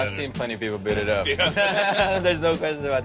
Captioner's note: laughs